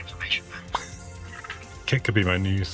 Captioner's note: laughs